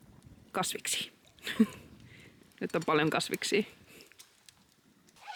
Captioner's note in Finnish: hymähdys